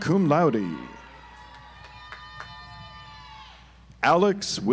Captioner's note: audience applauds